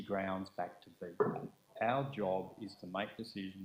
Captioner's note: glass clanking